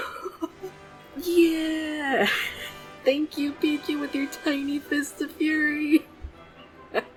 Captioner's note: laughs